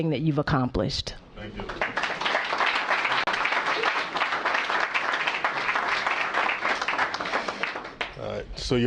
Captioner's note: applause